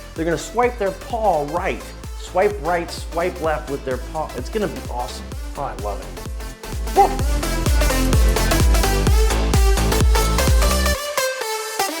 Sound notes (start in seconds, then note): 6.9 dog barks; 7.7 upbeat music